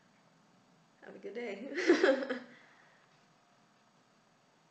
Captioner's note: laughs